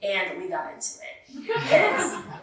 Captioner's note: laughter